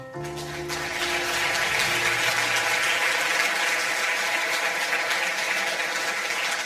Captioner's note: audience applause